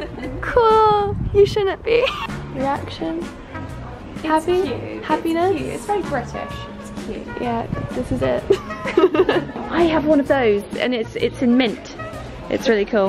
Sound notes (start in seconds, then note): 8.4 both laugh